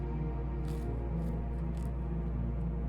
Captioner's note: chewing